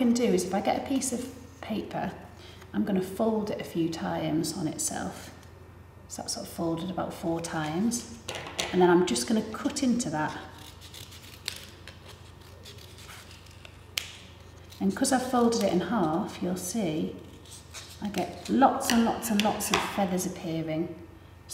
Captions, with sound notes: Now, what I can do is, if I get a piece of paper, I'm going to fold it a few times on itself. So it's folded about four times. And then I'm just going to cut into that. (paper snipping) And 'cause I folded it in half, you'll see, I get lots and lots and lots of feathers appearing,